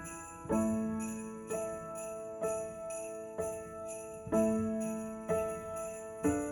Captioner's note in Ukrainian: дзвін